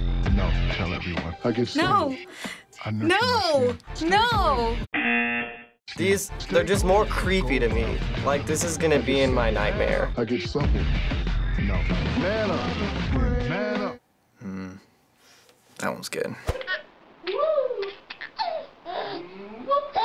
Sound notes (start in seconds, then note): 4.6 buzzer; 17.2 baby laughs